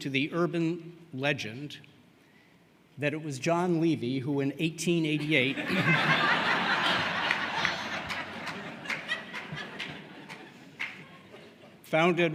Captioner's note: laughter